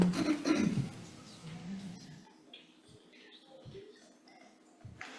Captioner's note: speaker clears throat